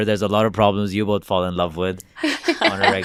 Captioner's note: interviewees laugh